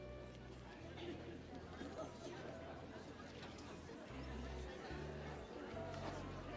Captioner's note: people chattering; gentle music